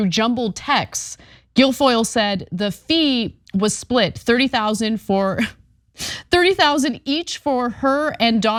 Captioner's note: laugh